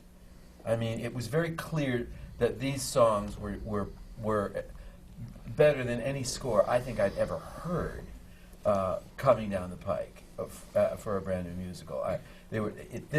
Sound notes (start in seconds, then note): none